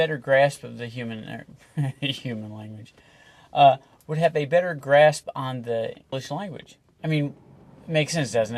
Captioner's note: chuckles